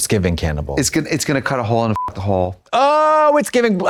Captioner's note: beep